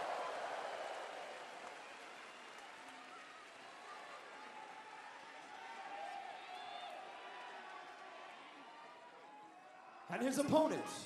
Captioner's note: crowd cheering